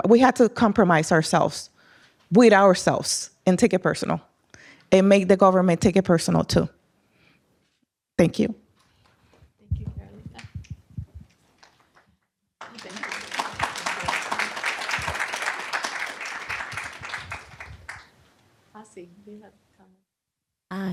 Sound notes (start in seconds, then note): 12.6 applause